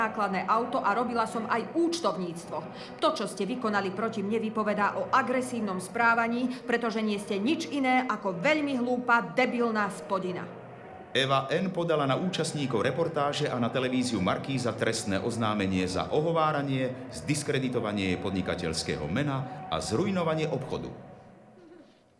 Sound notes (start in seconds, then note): 11.3 voice of reporter